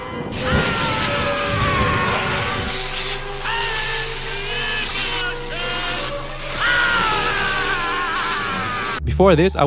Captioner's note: power noises